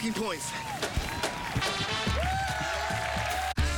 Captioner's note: cheering